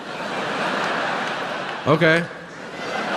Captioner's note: audience laughing